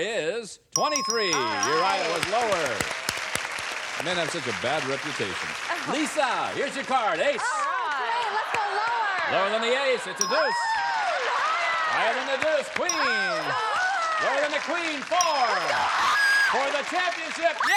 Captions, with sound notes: Actual number of men who have been thrown out of a bar is 23. You're right, it was lower. (applause) Men have such a bad reputation. Lisa, here's your card. Ace! -Oh! Great. Let's go lower. -Lower than the ace? It's a deuce. -Higher! -Higher than the deuce? Queen. -Lower! -Lower than the queen, 4! -Higher! -For the championship -- yeah!